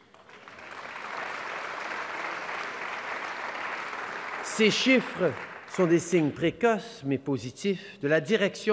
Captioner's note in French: Applaudissements